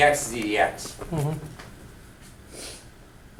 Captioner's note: voiceover